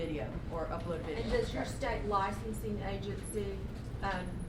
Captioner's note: voiceover